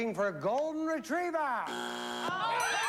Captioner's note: buzzer